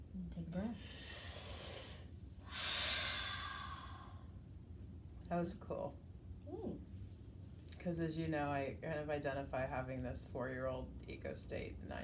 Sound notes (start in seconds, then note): 2.4 breathing deeply